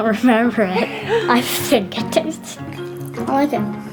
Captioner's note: laughing